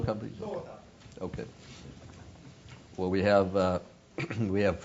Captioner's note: cough